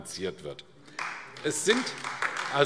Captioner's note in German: Beifall AfD